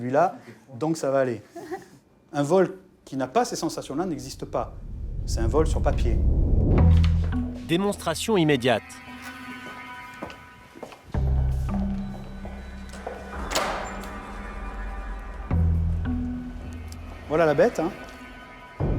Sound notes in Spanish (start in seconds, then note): 10.2 tacones golpean las baldosas del suelo; 13.6 la puerta se abre